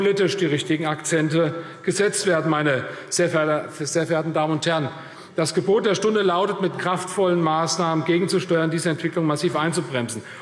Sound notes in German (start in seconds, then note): none